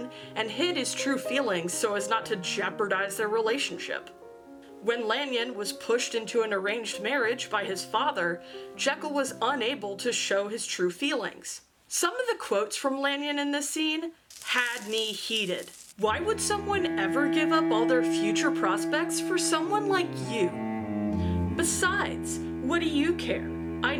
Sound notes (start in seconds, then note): 14.2 sizzle; 16.1 dramatic music